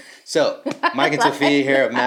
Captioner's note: laughs